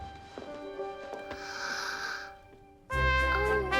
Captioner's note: gasps